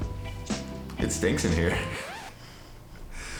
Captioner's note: laughs